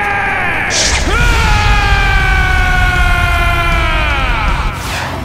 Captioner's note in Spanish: Gritos